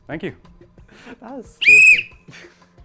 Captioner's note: blows whistle